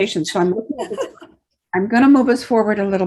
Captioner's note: laughs